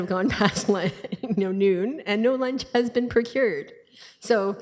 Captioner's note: laughing